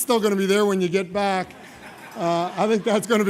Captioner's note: laughter